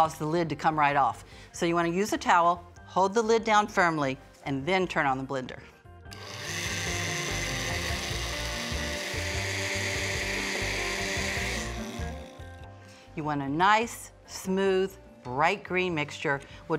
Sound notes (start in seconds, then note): 6.1 blender whirring; 11.4 whirring stops